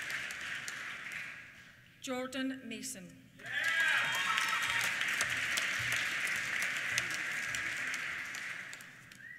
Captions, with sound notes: Jordan Mason. (CHEERS) (APPLAUSE)